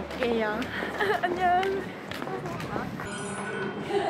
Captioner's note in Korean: 웃음